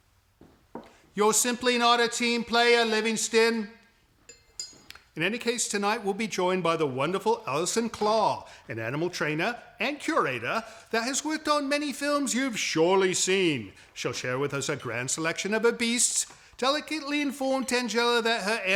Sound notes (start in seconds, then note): none